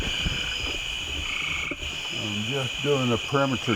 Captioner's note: insects chirping